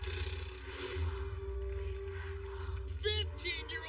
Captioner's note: chanting